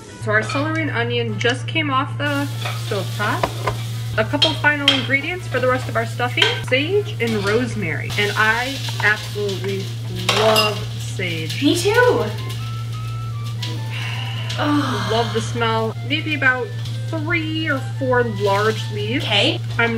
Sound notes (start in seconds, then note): 12.6 sniffing; 13.7 deeply exhaling